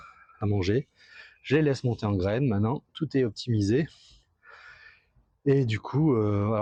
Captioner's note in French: soupir